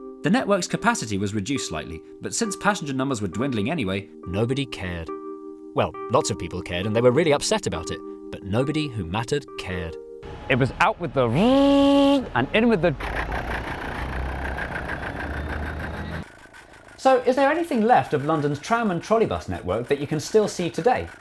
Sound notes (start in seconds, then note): 13.0 electric motor noise; 14.3 diesel engine noise